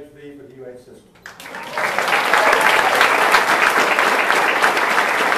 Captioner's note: audience applauding